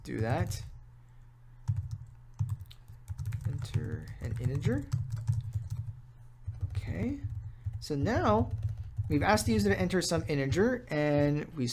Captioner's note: typing